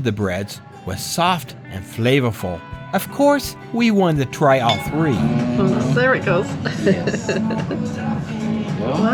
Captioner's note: giggle